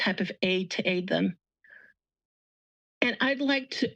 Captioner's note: pause